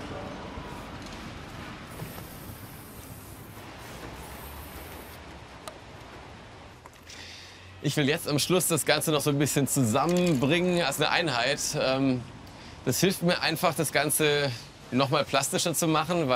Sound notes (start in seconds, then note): 1.8 delicate, hissing sounds